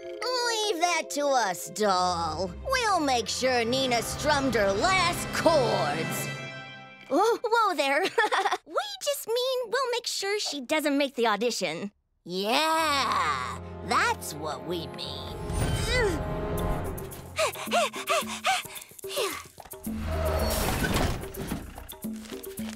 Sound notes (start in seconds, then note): 8.0 laughs; 17.3 panting; 19.9 light, curious music